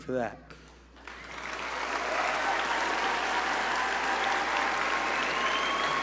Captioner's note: audience cheer and applaud